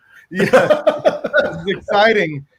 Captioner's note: laughs